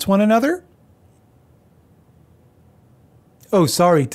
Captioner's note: frustrated silence